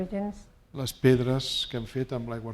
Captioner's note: speaking spanish